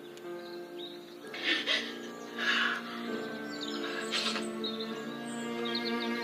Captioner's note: sobs